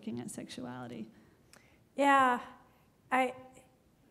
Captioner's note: none